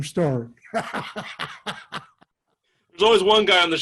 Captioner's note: laughs